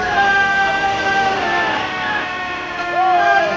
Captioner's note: all cheering